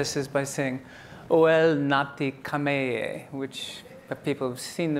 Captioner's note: speaking in a foreign language